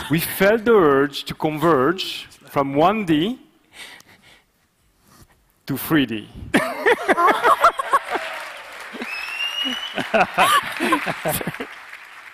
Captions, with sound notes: we felt the urge to converge from 1D to 3D. (audience cheering) (presenters laughing)